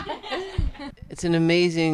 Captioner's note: group laughing